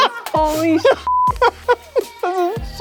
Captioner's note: beep